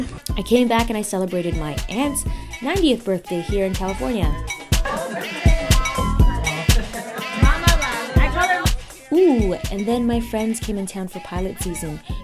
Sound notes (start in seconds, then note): 4.7 chatter